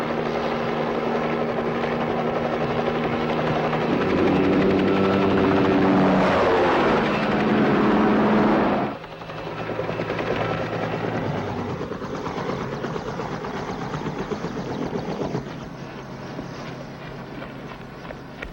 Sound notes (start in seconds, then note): 4.3 helicopter roaring continues; 11.9 helicopter sputters down and lands